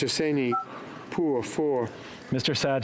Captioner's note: speaking French